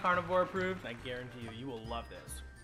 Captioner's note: people applauding